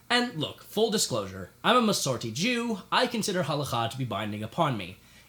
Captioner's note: none